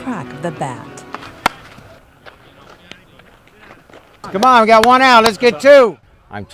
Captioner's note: bat cracking